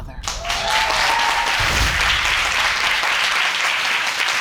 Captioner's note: audience applauding